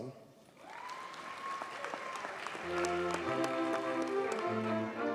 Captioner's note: audience cheers and applauds